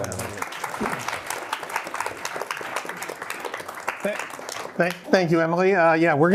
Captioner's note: applause